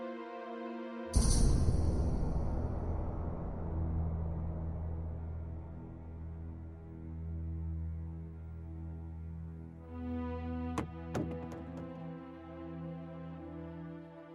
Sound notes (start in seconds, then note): 10.8 thumping on door